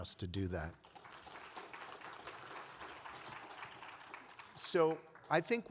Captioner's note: audience applauds